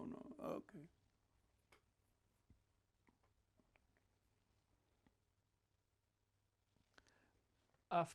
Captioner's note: pauses 6 seconds